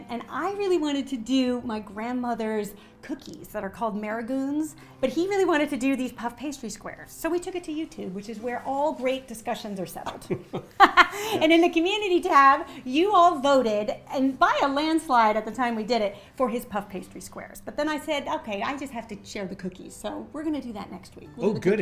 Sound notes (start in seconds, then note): 10.2 they laugh